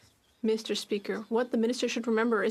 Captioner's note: speaking French